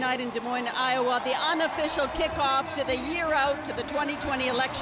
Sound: cheers and Applause

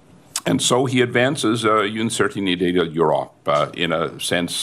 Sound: speaking french

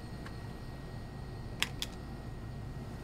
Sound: sound of throwing a card on a table

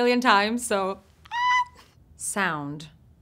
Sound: squeaking

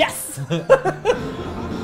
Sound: chuckles

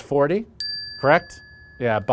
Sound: bell dings

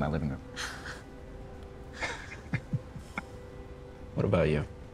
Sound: chuckling

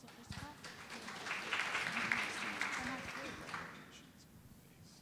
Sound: audience applauding

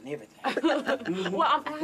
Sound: all laughs

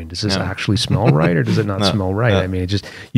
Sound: laughter

